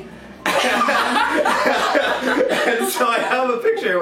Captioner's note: both laughing for obvious reasons